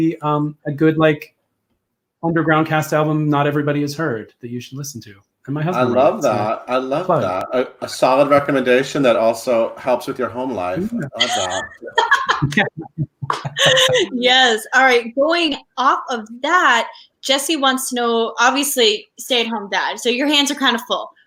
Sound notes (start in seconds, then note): 10.7 laughs